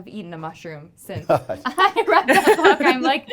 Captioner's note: group laughs